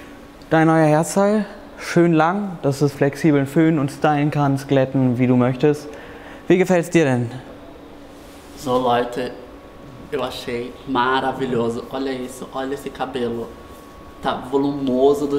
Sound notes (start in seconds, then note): 9.4 speaks Portuguese